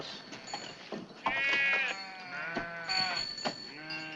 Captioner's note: sheeps bleating